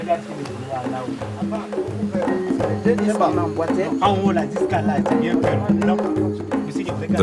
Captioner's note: foreign language